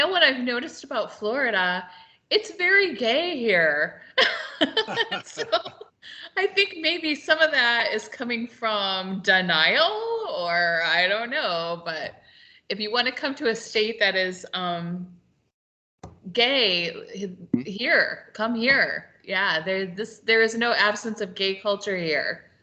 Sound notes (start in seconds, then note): 4.2 laughing